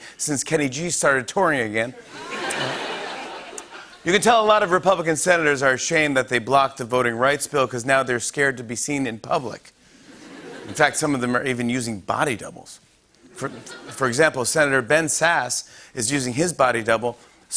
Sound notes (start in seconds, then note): 2.0 laughter